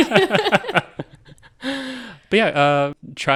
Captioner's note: all laughing